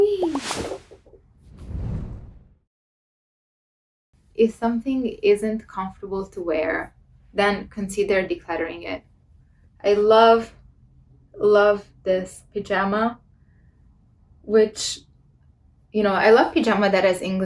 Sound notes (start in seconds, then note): 1.5 air whooshing